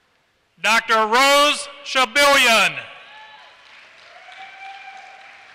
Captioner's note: applause